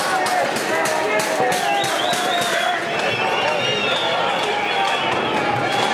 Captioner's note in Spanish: Cacerolazos, silbidos, gritos